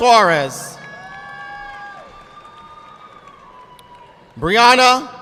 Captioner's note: audience clapping